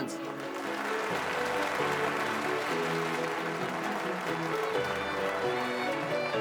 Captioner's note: audience cheers and applauds